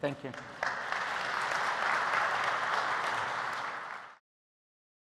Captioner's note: applause